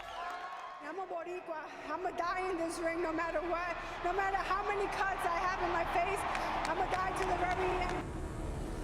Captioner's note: cheers and applause